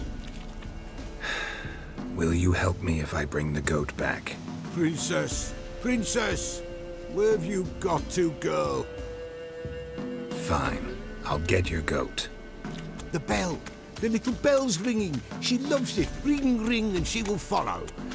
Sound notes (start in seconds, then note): 1.2 heavy sigh